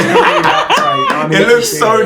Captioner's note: laughter